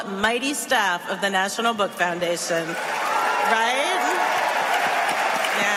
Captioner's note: applause